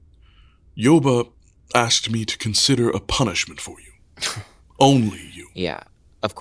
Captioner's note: sighing